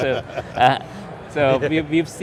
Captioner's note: laughing